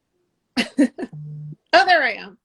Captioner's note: laughing